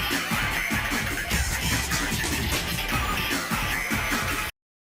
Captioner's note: scratching